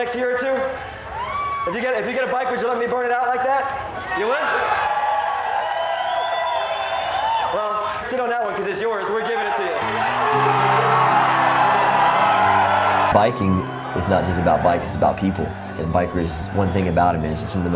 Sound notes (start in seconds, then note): 1.7 cheering; 4.9 cheering; 9.8 uplifting music; 10.1 cheering